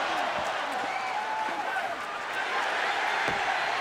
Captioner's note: audience cheering